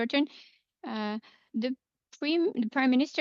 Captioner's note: speaking French